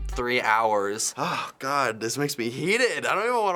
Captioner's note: deep sigh